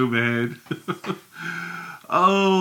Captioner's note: chuckles